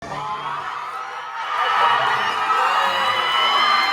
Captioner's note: crowd cheering